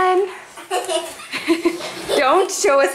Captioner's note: laughs